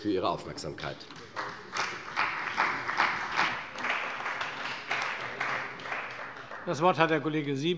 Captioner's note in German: Beifall bei der CDU und dem BÜNDNIS 90/DIE GRÜNEN